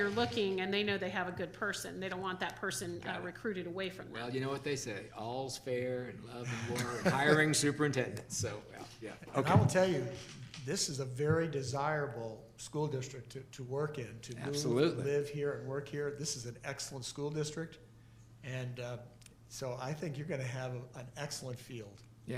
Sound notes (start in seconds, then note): 6.5 board chuckling